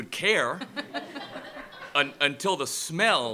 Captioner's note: laughter